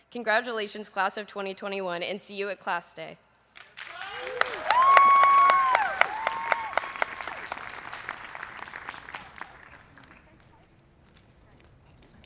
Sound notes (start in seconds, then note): 3.5 people applauding